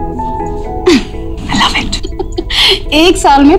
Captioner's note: Vandy laughing